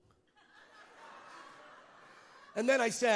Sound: congregants laugh

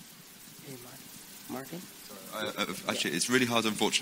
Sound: murmuring

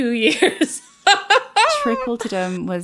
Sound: laughs

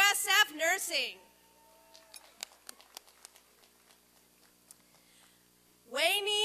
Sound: applause and cheering

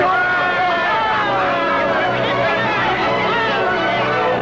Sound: men cheering

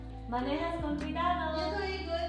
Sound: speaking a foreign language

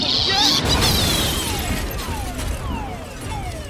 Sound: squealing

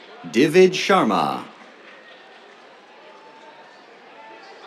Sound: applause

